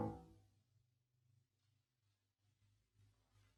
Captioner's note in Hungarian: csend